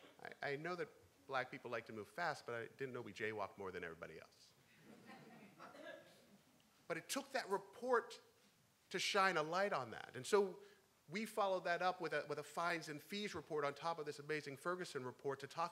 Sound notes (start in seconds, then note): 4.9 laughing; 5.7 crowd